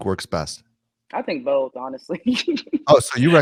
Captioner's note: chuckles